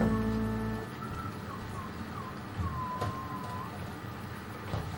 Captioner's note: John Little whistles to himself